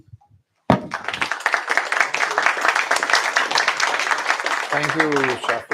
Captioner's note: applause